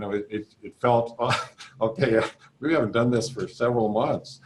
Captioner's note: laughing